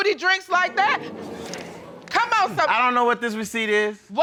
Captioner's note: audience gasps